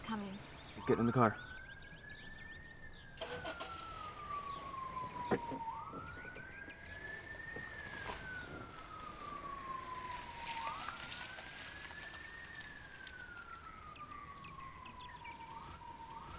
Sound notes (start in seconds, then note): none